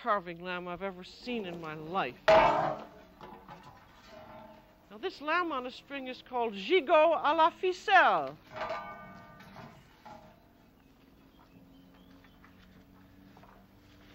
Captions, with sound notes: I've ever seen in my life. [ Thud ] Now, this lamb on a string is called gigot à la ficelle. [ Clanging ]